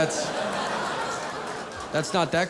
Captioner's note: audience laughing